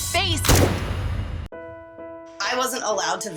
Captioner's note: gunshot